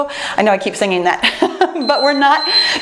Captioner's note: laughs